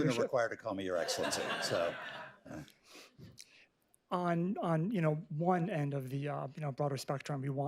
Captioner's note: laughter